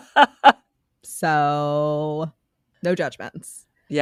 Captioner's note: laughs